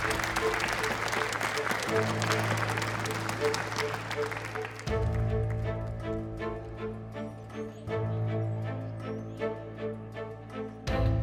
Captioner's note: audience applauds; soft dramatic music